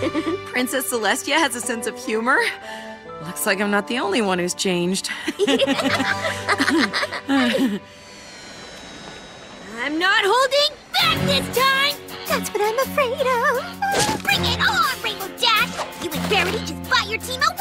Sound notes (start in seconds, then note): 5.2 both laugh; 7.9 drone whirring